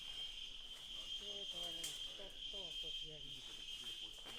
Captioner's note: insects chirping